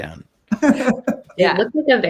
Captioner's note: laughs